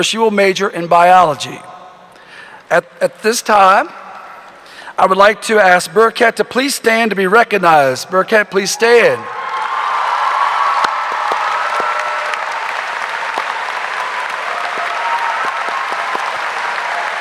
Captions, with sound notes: where she will major in biology. At this time, I would like to ask Bereket to please stand to be recognized. Bereket, please stand. (audience applauding) (audience cheering)